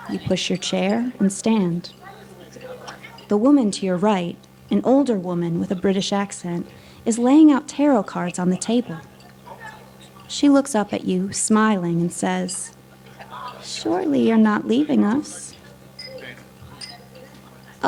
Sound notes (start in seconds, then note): 2.0 background chattering; 2.0 silverware clanking; 7.8 silverware clanking; 9.0 background chattering; 12.6 background chattering; 13.0 silverware clanking; 15.4 background chattering; 15.4 silverware clanking